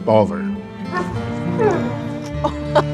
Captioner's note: dog whimpers inside